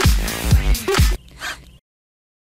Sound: breath; beat

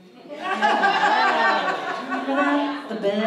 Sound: audience laughs

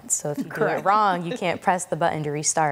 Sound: laughs

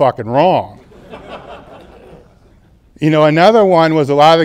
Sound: audience laughs

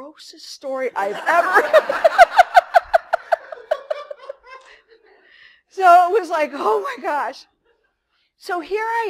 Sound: laughter

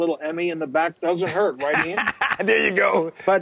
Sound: laughing

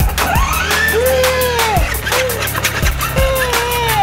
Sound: engine revving; upbeat music

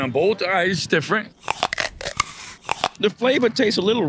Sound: apples crunching

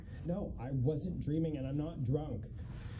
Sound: none

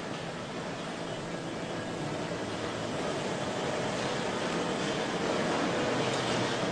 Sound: industrial machinery noise

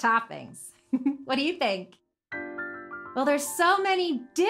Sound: giggles

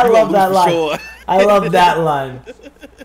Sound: laugh

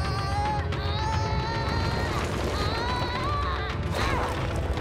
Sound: grunting

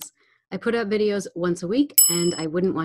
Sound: bell dinging

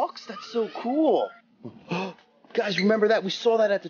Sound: gasps

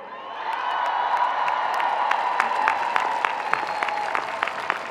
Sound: audience clapping

